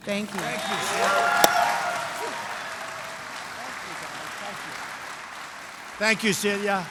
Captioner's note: applause